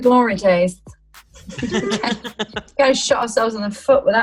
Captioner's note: they laugh